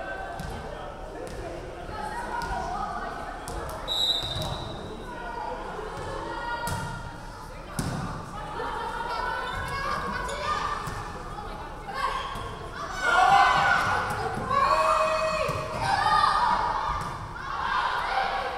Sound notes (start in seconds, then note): 3.8 referee whistling